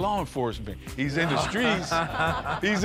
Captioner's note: laughter